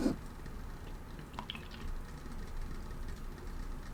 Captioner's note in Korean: 콧방귀